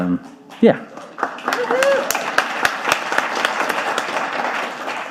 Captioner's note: audience applauding